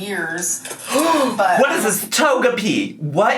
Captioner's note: gasps